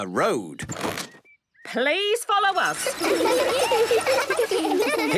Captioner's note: laughter